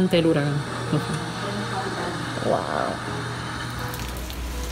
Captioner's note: rain hitting ground